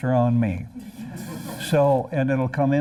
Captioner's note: laughter